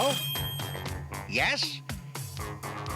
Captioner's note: telephone rings